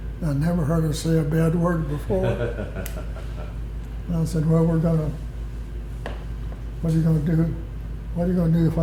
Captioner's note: laughter